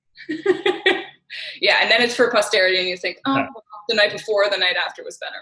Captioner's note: laughs